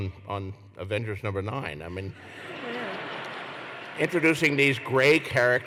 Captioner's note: laughter